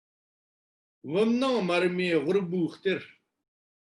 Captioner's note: tibetan